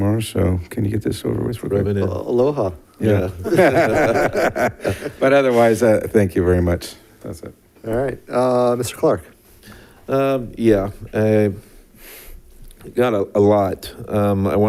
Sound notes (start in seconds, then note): 3.3 members laughing